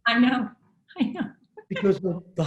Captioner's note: laughing